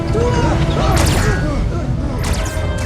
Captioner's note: weapons firing